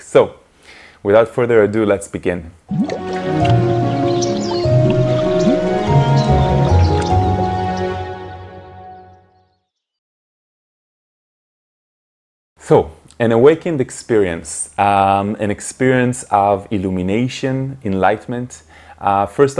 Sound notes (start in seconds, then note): 2.7 peaceful music; 2.8 birds chirping